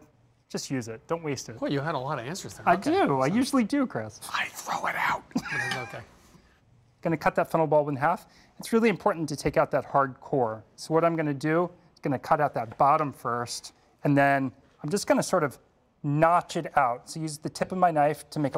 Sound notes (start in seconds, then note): 3.9 whispering; 5.3 laughs